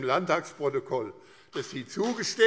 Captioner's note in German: Beifall